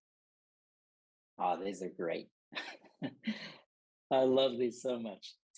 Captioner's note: laughter